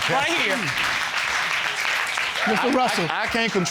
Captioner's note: audience clapping